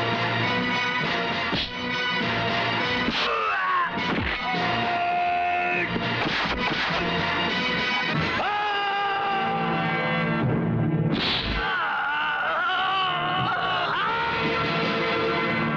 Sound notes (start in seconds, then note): 8.3 screams; 11.5 groans